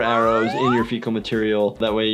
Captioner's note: slide whistles